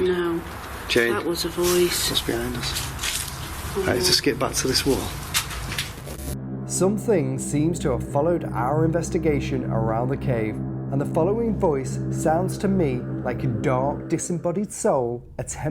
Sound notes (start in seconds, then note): 6.0 static